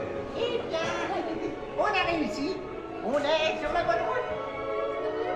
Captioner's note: Jiminy Cricket speaks French